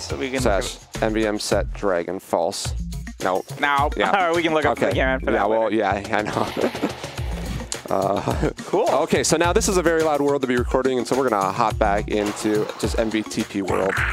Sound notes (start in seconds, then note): 6.2 laughs